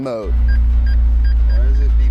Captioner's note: beeping